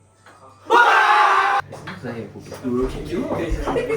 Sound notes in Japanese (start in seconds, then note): 0.6 叫び声